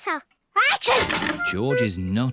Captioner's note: sneezes